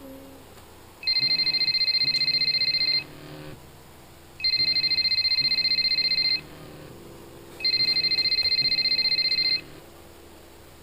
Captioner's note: phone ringing